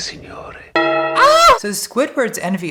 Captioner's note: church Bell